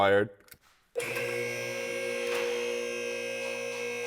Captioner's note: machine roaring